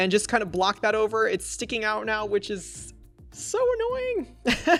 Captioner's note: laughs